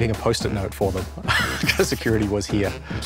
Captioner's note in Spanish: ríe